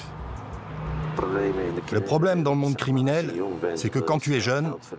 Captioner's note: Dutch spoken audio